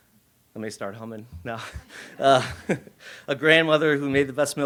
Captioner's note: laughs